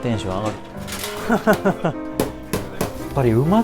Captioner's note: laughs